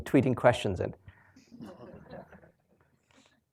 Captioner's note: laughter